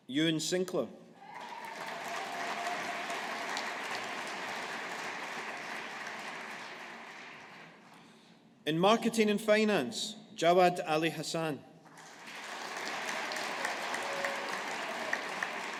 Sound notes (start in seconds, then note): 1.2 audience applauding; 11.9 audience applauding